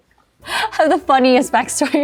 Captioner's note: chuckles